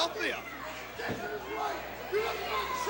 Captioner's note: crowd chatter